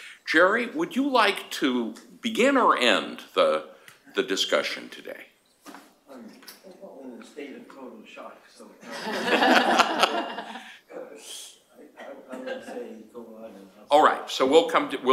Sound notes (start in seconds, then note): 8.8 laughter